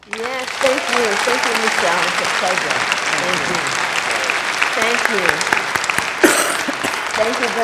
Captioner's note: crowd gives standing ovation